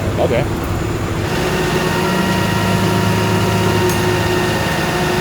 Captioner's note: tow truck winch whirring